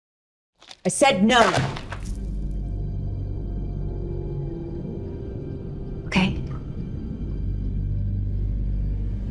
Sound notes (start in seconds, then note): 1.4 door slams; 2.2 unsettling music